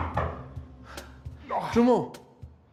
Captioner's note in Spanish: Toques en la puerta